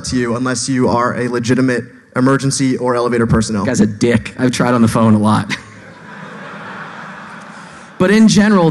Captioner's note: laughing